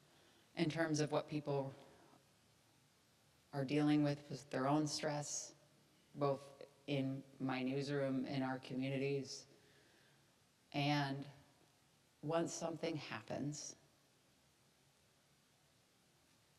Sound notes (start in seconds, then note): none